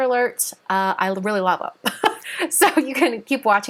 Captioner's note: laughing